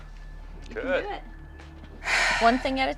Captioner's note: sighs